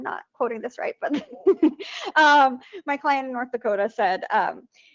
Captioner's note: laughs